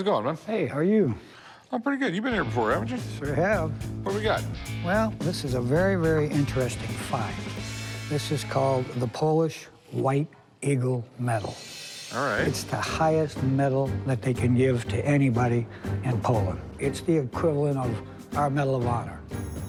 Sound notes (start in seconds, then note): none